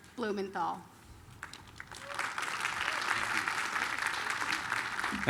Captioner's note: applause